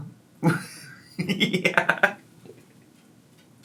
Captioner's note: laughing